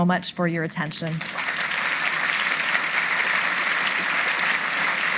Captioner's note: audience applauding